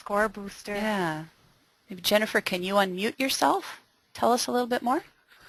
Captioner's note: voiceover